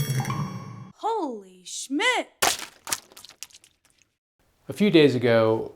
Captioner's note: paint splashes